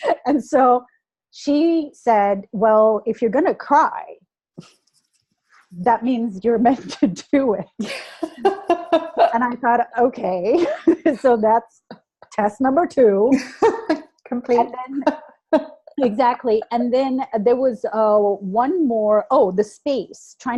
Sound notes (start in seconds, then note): 7.8 laughter; 14.6 laughs